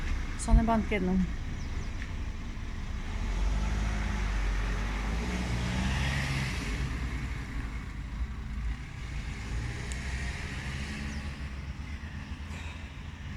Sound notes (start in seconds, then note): 4.7 car drives off